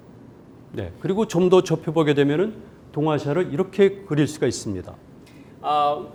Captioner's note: speaking in Korean